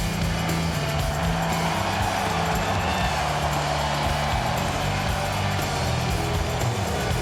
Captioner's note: crowd cheering continues; upbeat music continues